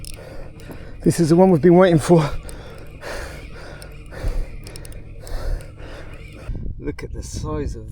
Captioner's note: panting and sighs